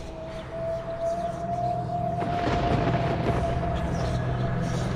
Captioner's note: thunder cracking